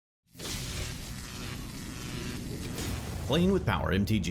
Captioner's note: electricity whizzing